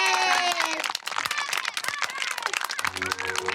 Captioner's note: clapping; kids chattering; whimsical music